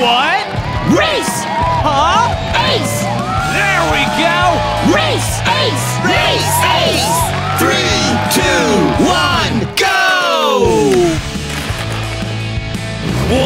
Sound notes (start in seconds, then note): 0.0 crowd cheering; 1.3 crowd; 3.0 crowd; 5.2 crowd; 10.6 intense music